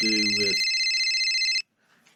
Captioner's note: phone rings